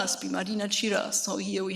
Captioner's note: speaks in a foreign language